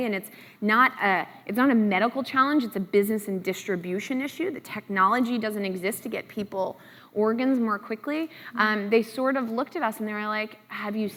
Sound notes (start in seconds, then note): none